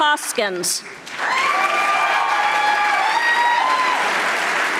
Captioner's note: audience applauding